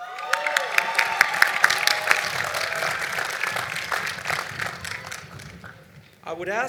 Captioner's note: cheering and Applause